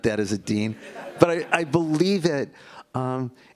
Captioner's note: laughter